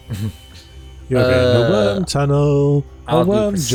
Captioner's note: sing songy